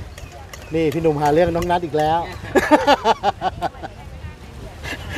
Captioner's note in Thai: เสียงหัวเราะ